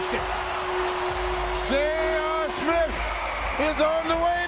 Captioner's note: cheers and applause